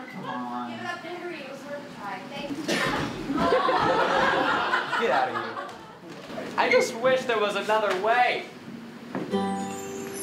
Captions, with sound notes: -Give it up, Barry. It was worth a try. Thank you, Bobby. (Bobby cries. Audience laughs) -I just wish there was another way.